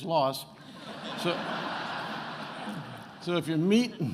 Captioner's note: attendees laughing